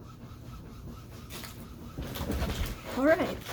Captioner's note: printer noises